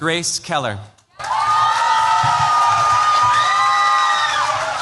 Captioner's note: cheers, applause